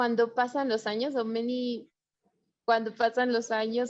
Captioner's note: speaking foreign language